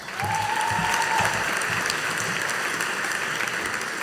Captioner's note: audience applauding